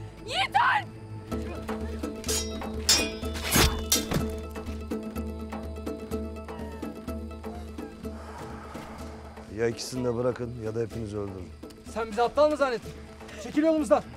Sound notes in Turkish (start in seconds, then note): 2.2 Kılıç sesleri